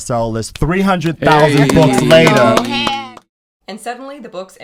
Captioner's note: hosts applauding